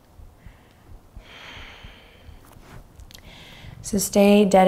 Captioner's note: exhaling deeply